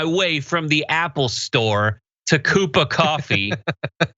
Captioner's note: laugh